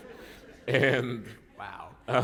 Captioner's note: laughter